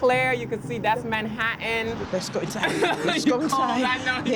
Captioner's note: laughs